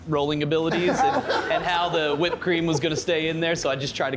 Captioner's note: laughter